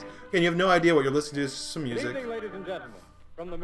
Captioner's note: radio